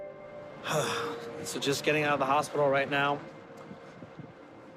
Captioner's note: crying; exhales